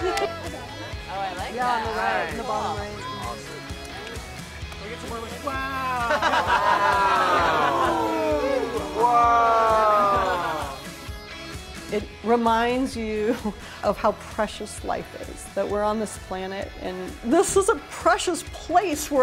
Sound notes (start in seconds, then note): 0.1 cheers; 7.5 gasps